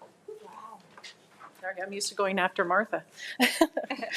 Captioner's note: chuckles